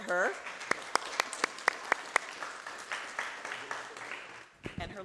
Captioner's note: audience applauding